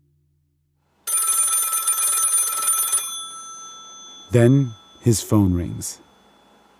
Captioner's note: phone rings